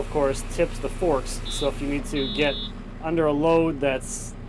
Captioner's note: telehandler beeping